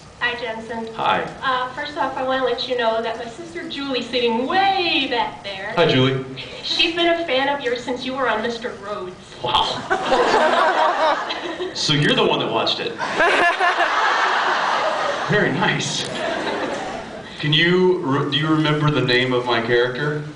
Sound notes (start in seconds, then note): 9.6 laughing; 9.6 laughs; 13.0 laughs